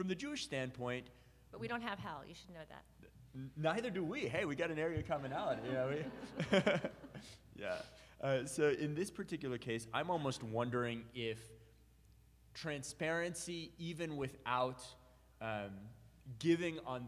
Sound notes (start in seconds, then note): 5.1 audience laughs; 5.2 laughs